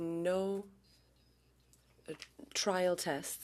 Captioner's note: speaking French